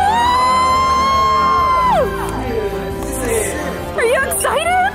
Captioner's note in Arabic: هتاف من جميع النواحي